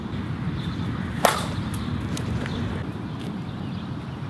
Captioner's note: sound of bat hitting ball